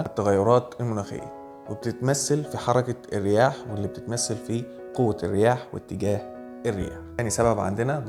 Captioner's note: wind movements